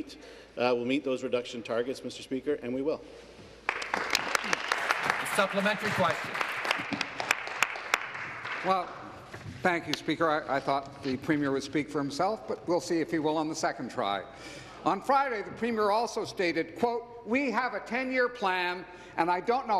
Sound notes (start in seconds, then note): 7.6 applause